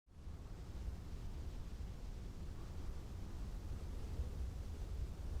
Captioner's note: gentle wind